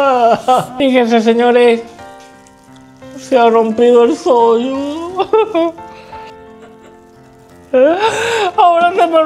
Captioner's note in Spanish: risas